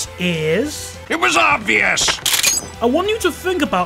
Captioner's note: cocks gun